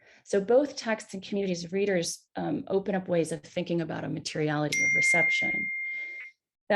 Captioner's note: timer pings